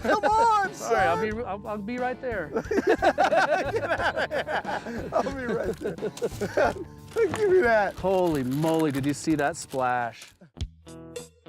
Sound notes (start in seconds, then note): 2.5 laughter